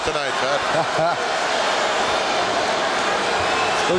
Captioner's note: Pat chuckles